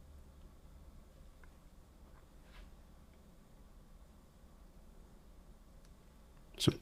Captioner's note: silence